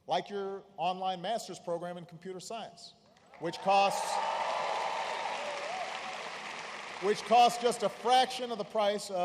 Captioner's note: applause